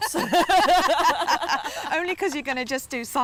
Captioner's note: laughter